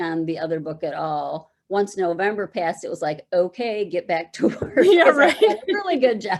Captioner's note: laughing